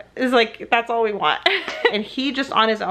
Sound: laughs

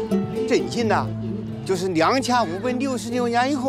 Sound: speaking Chinese

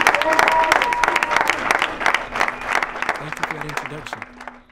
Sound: clapping

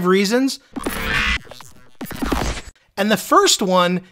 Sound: electricity squawking

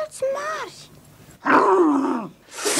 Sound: grumbles annoyed

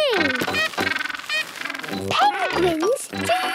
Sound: honking

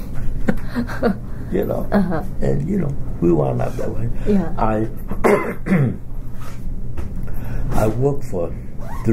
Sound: coughs

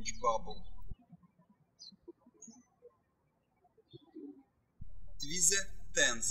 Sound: birds chirping

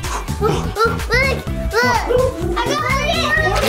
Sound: upbeat music; babbling

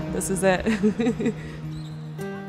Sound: chuckles; gentle guitar music

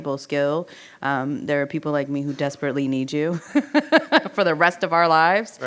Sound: laughs

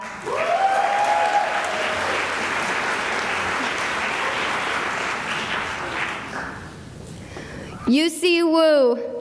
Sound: cheering and applause

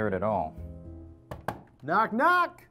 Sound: knock

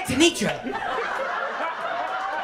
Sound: laughter, applause, and cheering

